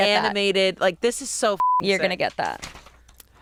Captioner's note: beep